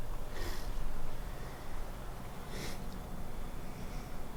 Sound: Youngwon sniffles

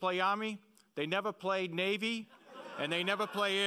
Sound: laughing

